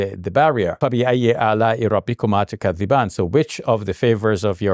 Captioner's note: speaks in Arabic